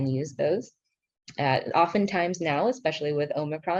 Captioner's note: speaking in foreign language